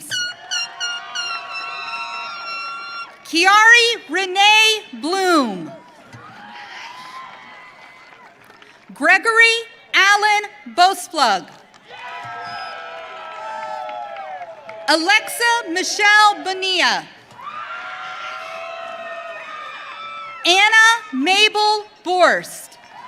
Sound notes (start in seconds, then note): 0.1 audience cheering; 5.8 audience cheering; 11.8 audience cheering; 17.3 audience cheering; 22.8 audience cheering